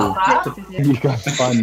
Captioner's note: laughing